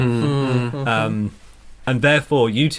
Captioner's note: an agreement noise from the twins